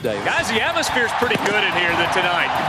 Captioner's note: voiceover